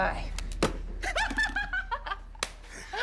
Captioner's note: laughing